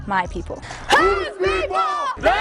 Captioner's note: shouting